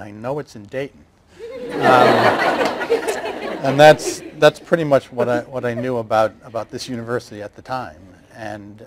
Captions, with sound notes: and I know it's in Dayton. (laughter) And that's pretty much what I knew about this university at the time.